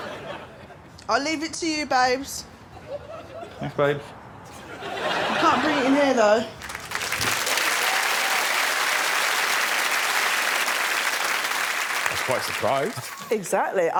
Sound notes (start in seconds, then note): 0.0 laughter; 8.1 applause